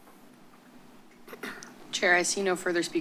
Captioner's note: clears throat